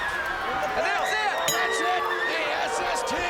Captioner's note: bell ringing